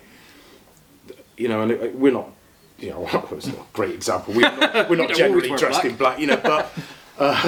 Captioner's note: laughing